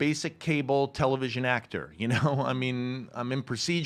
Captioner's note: chuckles